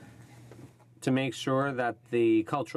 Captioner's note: speaking French